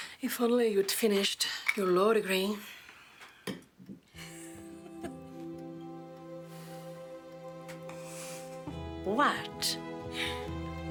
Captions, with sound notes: If only you'd finished your law degree. (Alice laughs) (warm music) What?